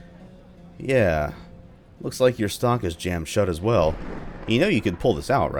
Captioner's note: thunder